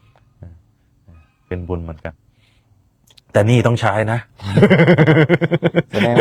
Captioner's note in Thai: เสียงหัวเราะ